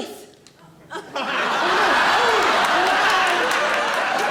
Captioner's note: audience laughing